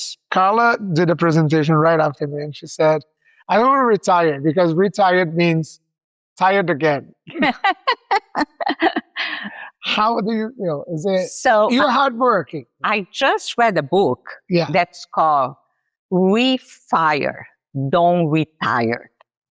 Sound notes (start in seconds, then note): 7.6 laughs